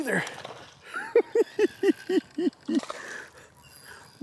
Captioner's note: giggling